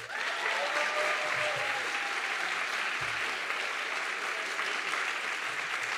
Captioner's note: audience clapping and cheering